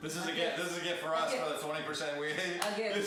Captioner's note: laughing